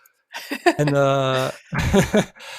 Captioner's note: laughs